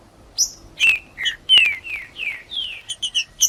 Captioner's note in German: trinca ferro cantando